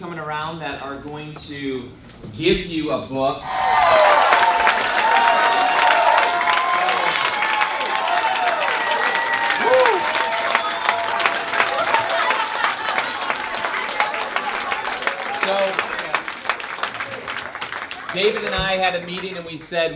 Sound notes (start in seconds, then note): 3.1 applause